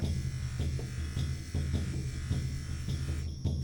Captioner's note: wheel whirring